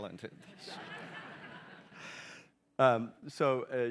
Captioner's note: audience chuckling